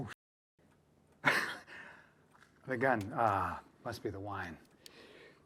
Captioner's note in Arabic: يضحك